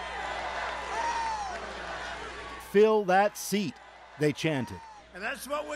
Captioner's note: chanting